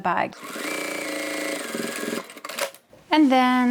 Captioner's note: sewing machine whirs